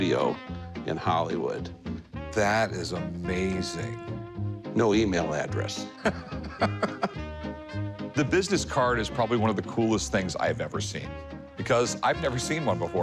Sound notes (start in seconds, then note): 5.8 Rick chuckling